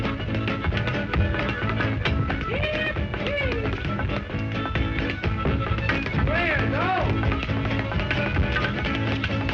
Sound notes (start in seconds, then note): 2.9 voiceover; 4.5 loud tapping